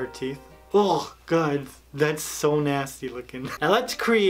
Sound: gags

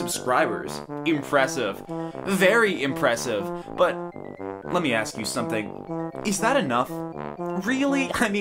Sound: mockish Tone

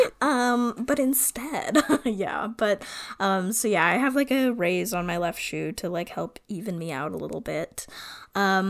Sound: laughs

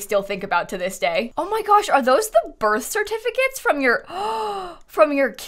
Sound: gasps

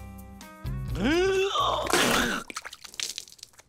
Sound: spitting

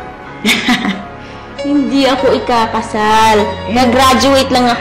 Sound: chuckles

